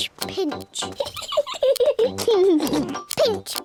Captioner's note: peppa and george giggle